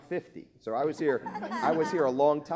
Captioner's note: laughing